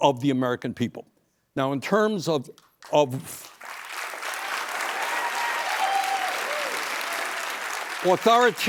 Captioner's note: applause